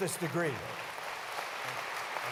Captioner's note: applause